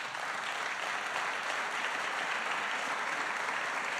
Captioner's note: applause